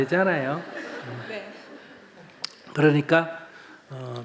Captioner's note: audience Laughter